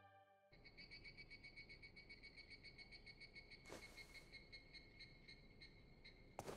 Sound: bird chirping

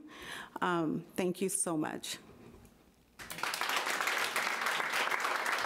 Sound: audience applauding

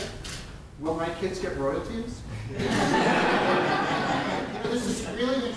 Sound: audience laughter

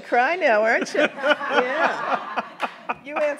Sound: everyone laughs

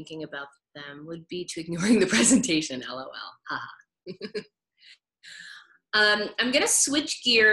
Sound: chuckles

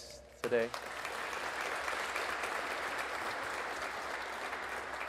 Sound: audience applauding

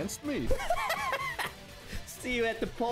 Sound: nervous; smug obnoxious laugh

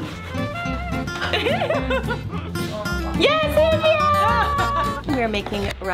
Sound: laughs

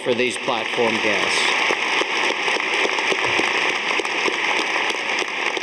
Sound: audience applauding

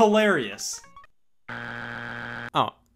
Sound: buzzer beeps

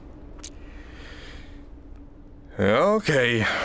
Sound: sighs

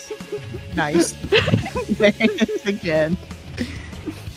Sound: laughs

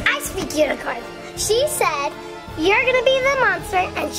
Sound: none

